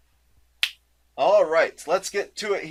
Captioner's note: snaps fingers